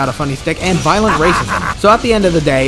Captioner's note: gamer laugh